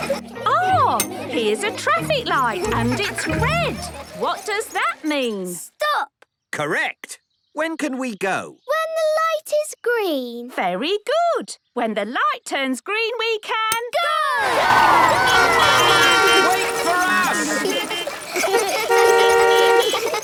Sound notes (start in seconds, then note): 14.5 beeping; 17.6 laughter; 18.2 beeping; 18.2 laughter